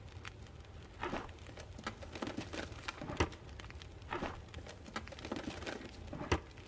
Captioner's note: searching noises